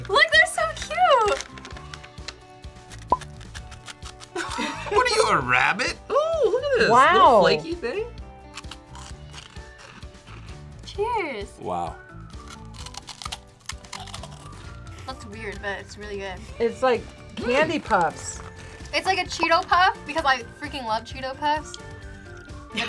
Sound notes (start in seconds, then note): 2.8 ring crunches